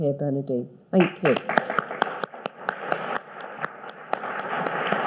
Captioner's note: all clapping